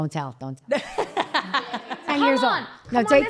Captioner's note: chuckles